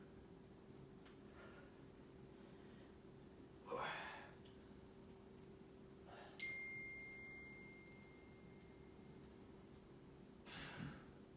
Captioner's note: inhaling and exhaling